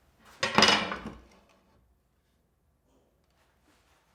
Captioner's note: metal thuds